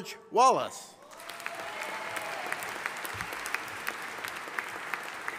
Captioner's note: audience applauding